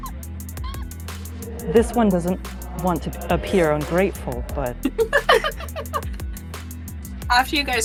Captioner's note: EVERYONE giggles